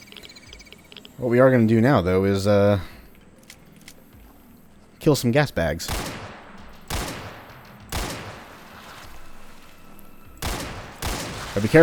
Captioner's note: Colt firing